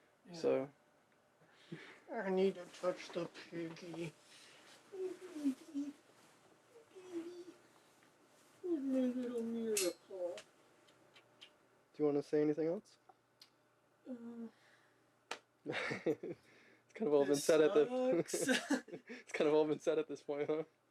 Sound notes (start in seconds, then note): 4.7 mumbles; 15.6 man chuckles